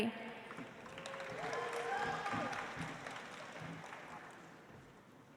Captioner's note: audience applauds